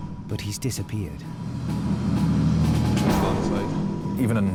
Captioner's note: suspenseful music; lifeboat engine whirring